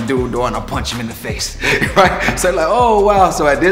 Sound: laughing

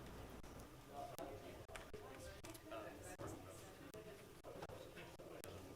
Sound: group chattering

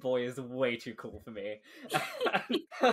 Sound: laughing

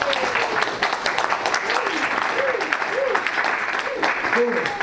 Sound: audience applauds

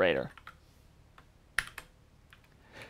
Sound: keyboard clicking

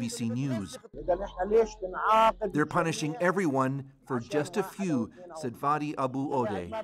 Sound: speaking alternate language

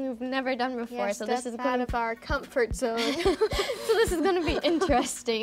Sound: laughs

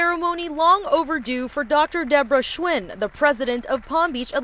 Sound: applause

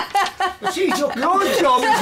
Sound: laughs

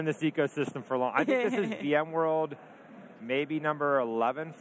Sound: laughs

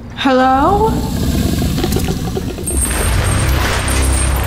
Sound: Brutus growls

